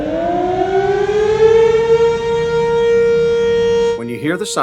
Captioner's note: siren noise